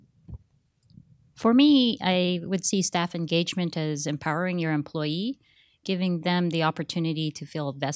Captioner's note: none